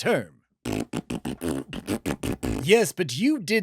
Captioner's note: arguing flatulence noises that are, of course, fake